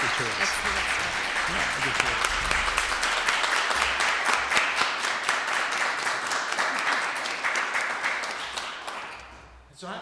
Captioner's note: applauses